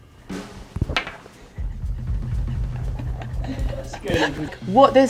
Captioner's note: chuckling softly